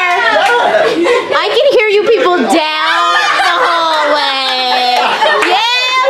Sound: laughs

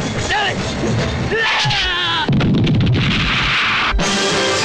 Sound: scream, Explosion

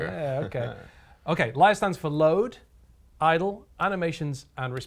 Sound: laugh

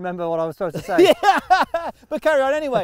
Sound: laughing

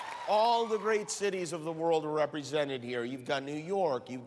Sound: cheers and applause

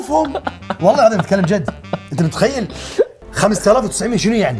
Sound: laughs

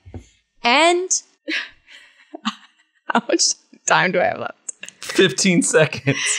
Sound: laughs

